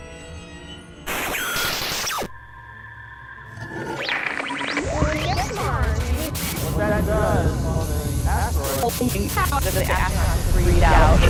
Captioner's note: sound Effects